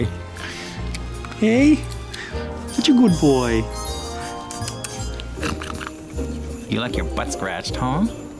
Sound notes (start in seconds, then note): 5.1 tongue clicks